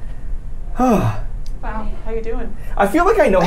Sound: sighs

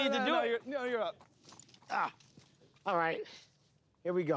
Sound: groans

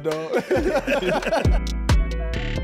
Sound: laughing; hip hop music

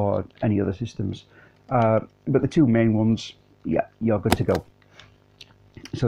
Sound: rubber stamp noise

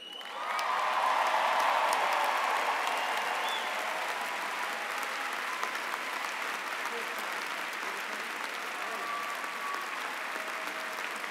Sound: cheering and applause

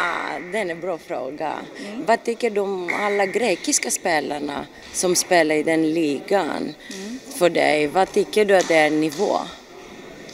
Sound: foreign language 03:31.17

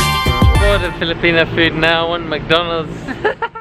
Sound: haha

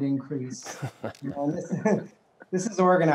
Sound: laughs

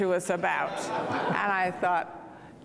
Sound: audience laughing

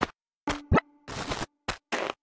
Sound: footsteps

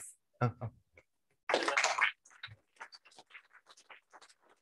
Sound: applause

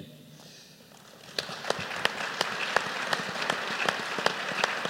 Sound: applause

